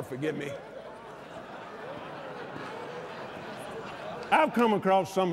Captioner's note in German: lacht